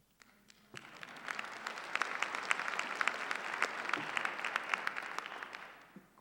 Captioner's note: applause